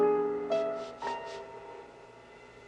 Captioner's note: sniffing